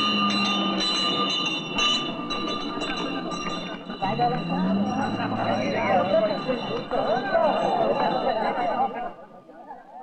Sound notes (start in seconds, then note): 4.0 crowd Chattering